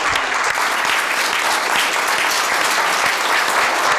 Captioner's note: clapping